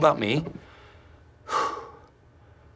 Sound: exhales sharply

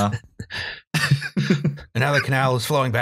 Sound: laughter

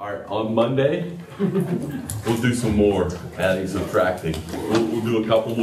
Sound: laughter

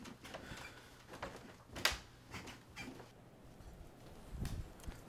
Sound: bed squeals

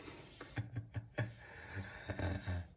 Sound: laughs

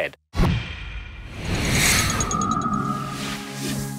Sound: whirring; ticking; mellow music

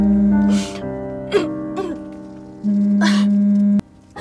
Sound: clearing her throat

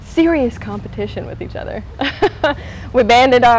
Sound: laughs

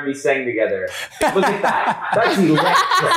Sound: chuckling

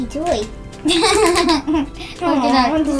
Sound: laughs

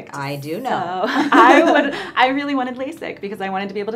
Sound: laughs

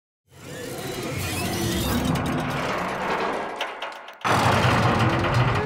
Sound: rattling, roaring, and crunching

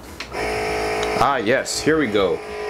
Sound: machine whirring

